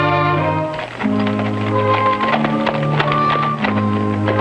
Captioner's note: horse trotting